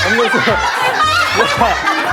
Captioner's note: hahaha